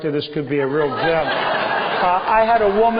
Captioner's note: laughter